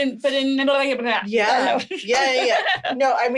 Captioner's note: laughing